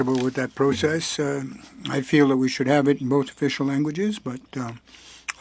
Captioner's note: speaking French